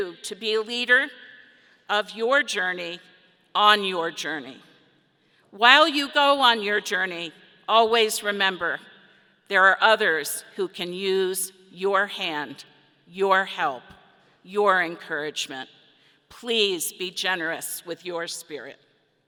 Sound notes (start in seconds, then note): none